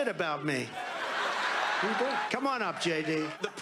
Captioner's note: studio audience laughing